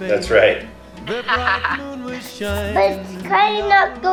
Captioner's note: chuckles